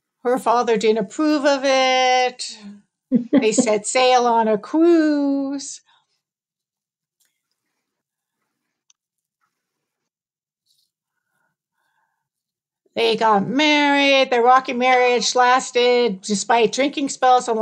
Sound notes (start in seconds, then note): 3.1 laughs